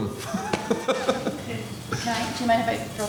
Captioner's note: laughter